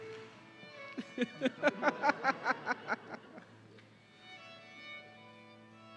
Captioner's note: laughing